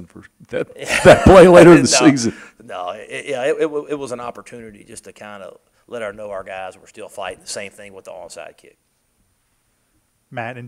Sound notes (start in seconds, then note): 0.8 laughter